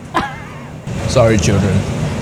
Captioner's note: chuckling